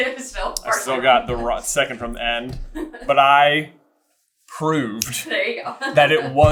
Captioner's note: laughing